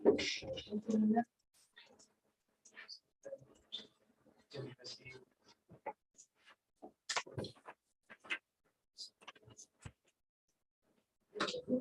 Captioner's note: indistinct conversation